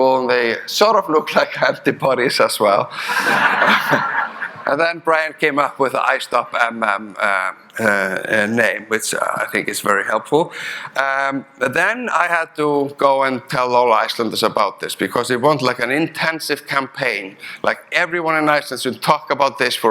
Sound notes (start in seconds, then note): 3.0 audience laughing